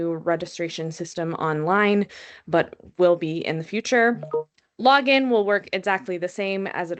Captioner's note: background chime